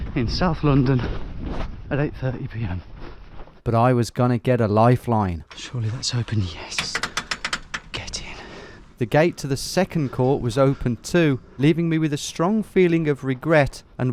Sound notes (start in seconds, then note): 6.8 gate clanking